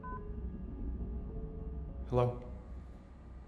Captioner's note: beeps